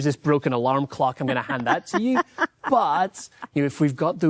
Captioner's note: laughing